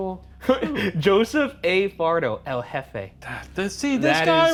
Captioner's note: laughs